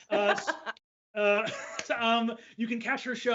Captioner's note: laughs